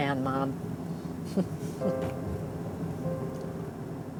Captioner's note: chuckles